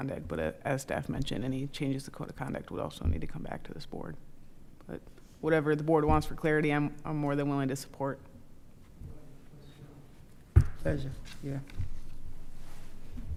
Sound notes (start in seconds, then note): 8.7 speaking quietly